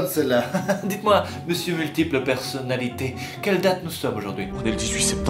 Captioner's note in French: rire